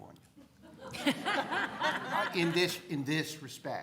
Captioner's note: crowd laughing